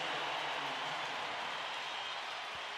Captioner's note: crowd cheering